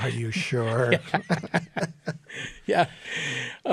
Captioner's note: laughing